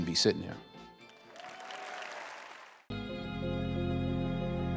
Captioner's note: applause